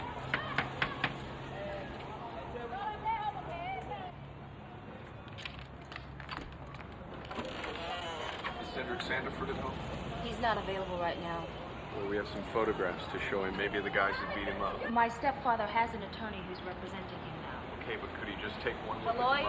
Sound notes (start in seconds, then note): 0.0 people chattering; 0.3 door knocking; 5.5 latch rattling; 6.4 lock and handle clicking; 7.2 door creaks